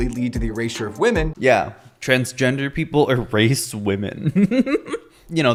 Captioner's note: giggles